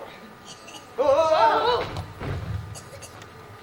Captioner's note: alerted gasps